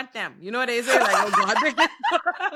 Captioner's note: laughing